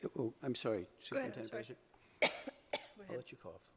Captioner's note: coughs